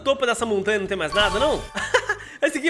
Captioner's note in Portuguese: risos